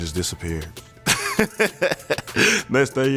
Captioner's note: laughing